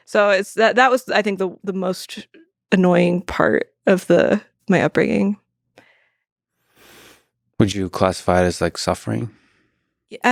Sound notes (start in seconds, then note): none